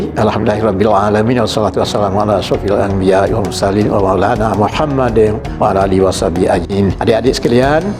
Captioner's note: Arabic